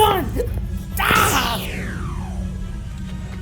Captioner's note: laser shoots